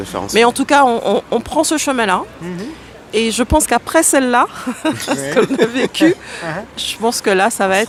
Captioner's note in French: rires